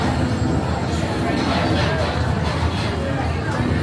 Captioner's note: cars rumbling